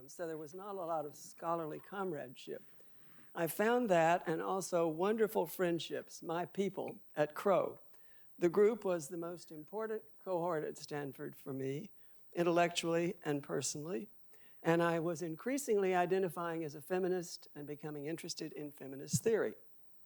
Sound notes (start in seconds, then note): none